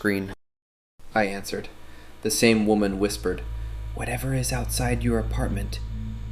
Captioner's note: whispers